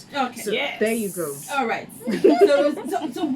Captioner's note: laughs